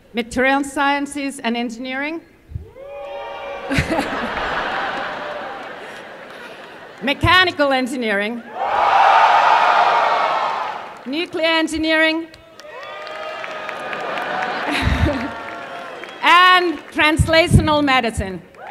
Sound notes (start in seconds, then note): 3.6 laughter; 8.4 cheering